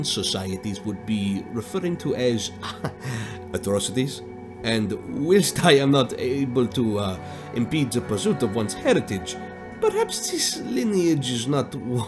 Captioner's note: chuckles